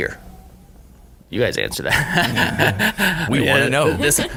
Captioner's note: laughing